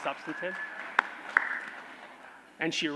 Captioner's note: applause